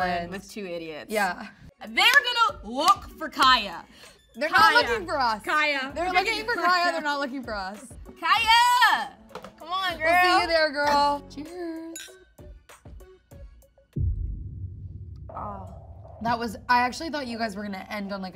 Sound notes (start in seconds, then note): 11.9 glasses clinking; 12.9 suspensful music